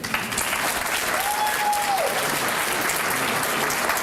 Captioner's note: applause